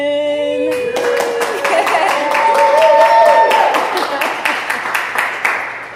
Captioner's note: audience applauding